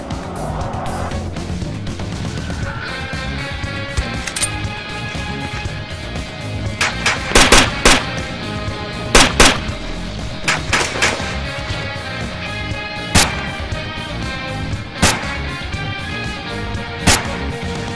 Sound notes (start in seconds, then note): 3.9 metal clanking; 6.8 guns firing